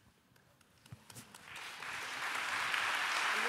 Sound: applause

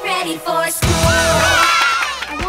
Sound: cheering

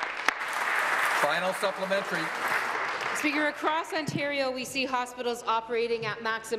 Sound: applause

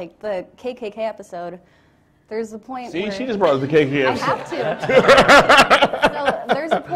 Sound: laughter

